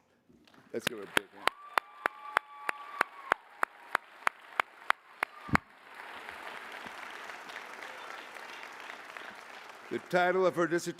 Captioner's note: applause